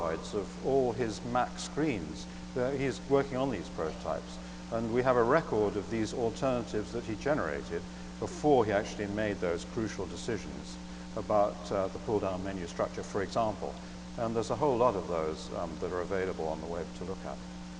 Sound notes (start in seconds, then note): none